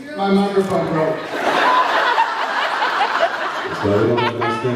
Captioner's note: laughs